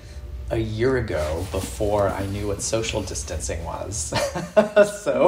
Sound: chuckles

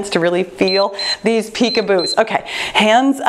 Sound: timer beeps

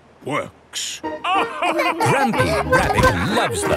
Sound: all laugh

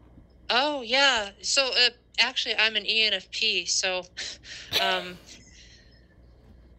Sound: laughs

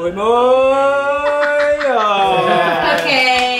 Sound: laughs

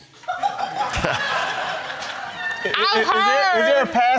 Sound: crowd laughing

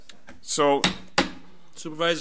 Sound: gavel bangs

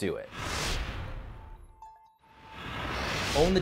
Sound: air whooshes

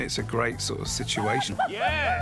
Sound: laughs

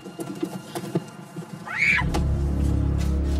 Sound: screams

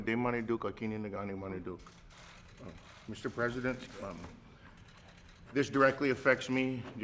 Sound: speaks in Ojibwe

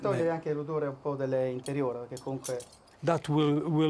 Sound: speaking Italian

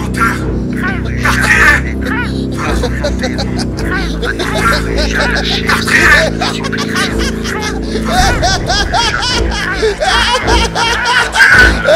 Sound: Fabian's mad laugh

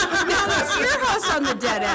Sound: laughing

